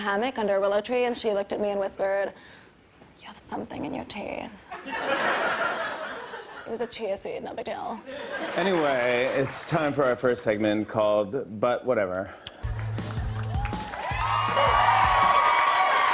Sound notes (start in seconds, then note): 4.7 laughter; 12.6 cheers and applause